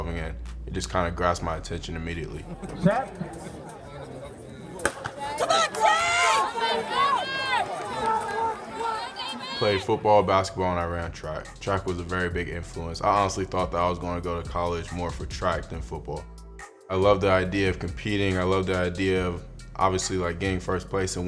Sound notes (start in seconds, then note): 3.8 fans murmuring; 4.9 starting gun goes off; 5.7 fans shouting